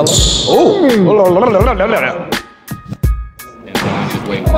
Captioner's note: participants chattering